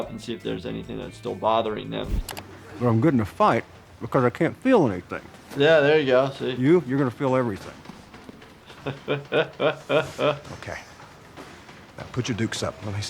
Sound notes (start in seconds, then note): 8.5 chuckling